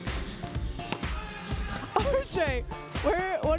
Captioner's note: hand slaps; interviewer laughing